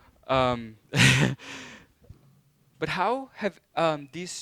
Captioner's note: laughing